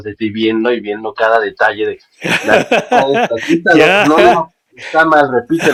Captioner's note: laughs